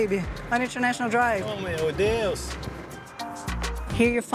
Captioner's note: in Portuguese